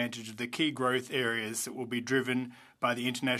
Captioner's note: speaking French